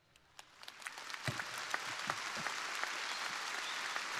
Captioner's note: crowd applauding